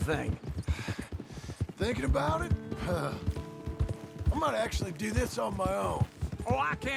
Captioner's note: sighs